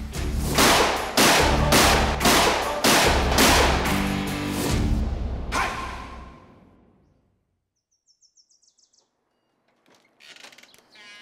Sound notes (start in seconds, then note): 0.5 gunshots blasting; 7.6 birds chirping